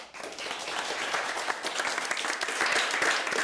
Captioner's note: applause